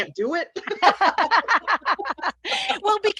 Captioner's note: laughter